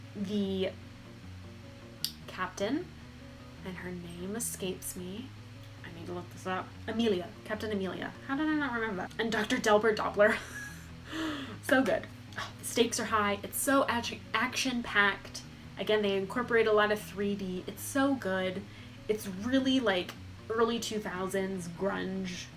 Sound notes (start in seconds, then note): 10.3 laughs